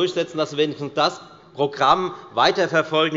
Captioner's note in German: none